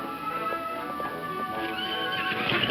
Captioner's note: horse neighs; hooves thumping